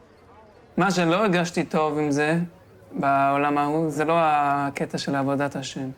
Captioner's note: young man speaking in foreign language